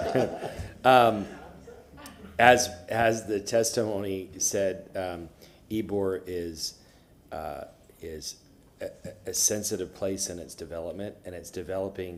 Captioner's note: laughter